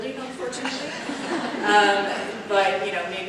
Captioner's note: audience laughs